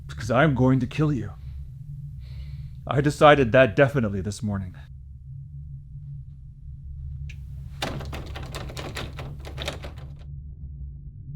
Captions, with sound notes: Because I'm going to kill you. I decided that definitely this morning. [sound of doorknob jiggling ]